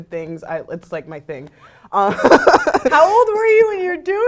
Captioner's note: laugh